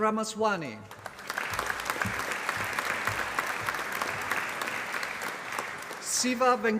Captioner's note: applause